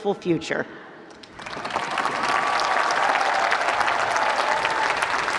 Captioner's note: applause